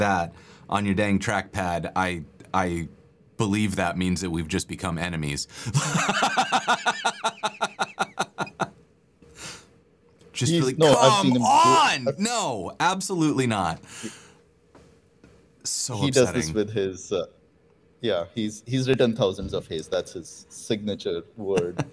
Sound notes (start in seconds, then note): 5.7 laughter